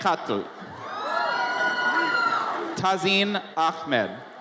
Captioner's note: audience cheers